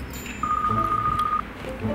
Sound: ringing continues

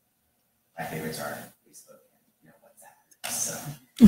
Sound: faintly speaking

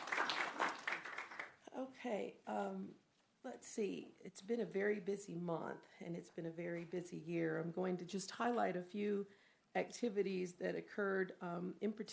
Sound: applause

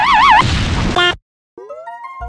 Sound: distorted screaming; boom

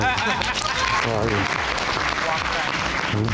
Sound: audience laughing

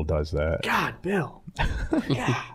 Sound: all chuckling

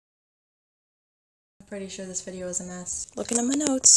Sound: snaps

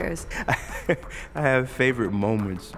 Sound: laughter

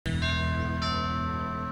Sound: doorbell rings

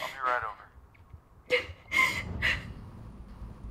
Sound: sobs

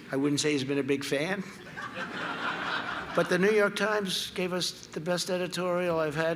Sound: laughter

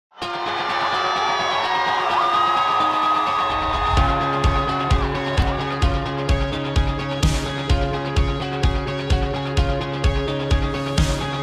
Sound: applause

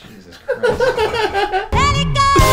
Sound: laughing

